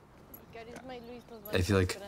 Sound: speaking Spanish

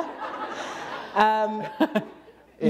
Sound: laughter

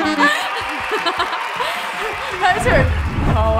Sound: laughing

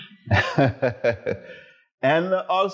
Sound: laughs

